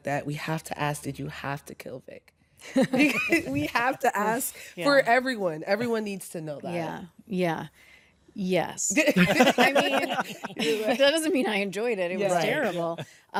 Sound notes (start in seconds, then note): 2.5 laughs; 4.9 sighs; 9.0 hosts laugh